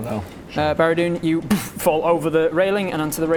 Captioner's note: boof